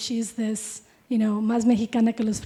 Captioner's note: speaking in Spanish